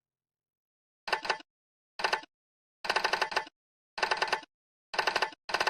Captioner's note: typewriter clicking